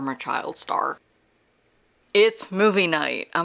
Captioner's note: no audio